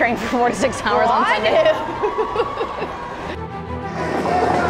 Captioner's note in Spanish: both laugh